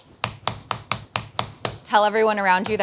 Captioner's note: meat tenderizer pounding